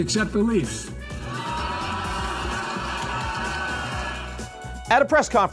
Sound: crowd laughing and cheering

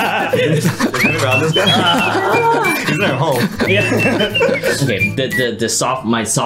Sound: all laughing

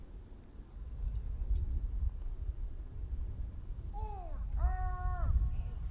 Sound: soldiers shouting commands

